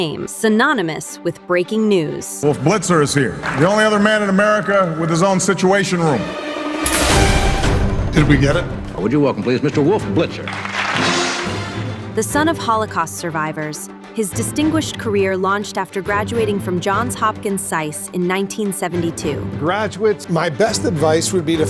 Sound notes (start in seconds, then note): 10.2 applause